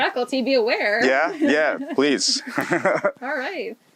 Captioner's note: laughs